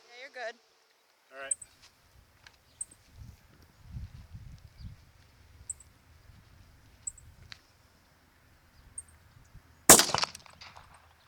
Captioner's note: gunshots